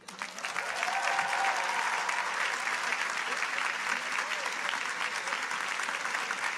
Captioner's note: audience applauding